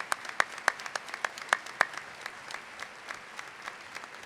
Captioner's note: applause